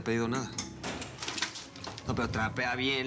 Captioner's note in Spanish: sonido al abrir la puerta